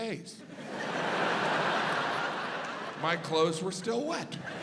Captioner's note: audience laughs